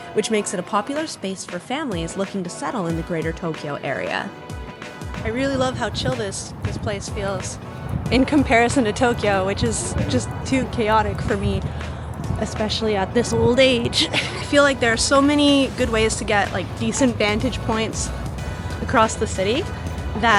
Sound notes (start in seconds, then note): 13.6 laughing